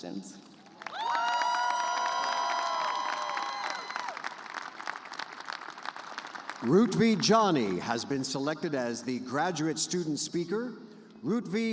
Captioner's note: cheers and applause